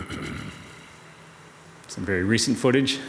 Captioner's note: council member clears throat